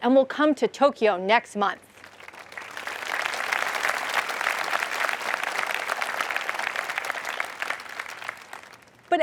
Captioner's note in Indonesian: Tepuk tangan